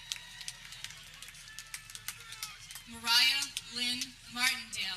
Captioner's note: people cheering